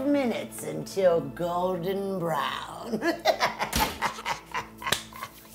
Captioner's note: witchy laughing